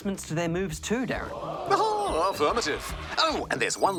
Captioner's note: chuckles